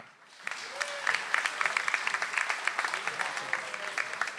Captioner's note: audience applauds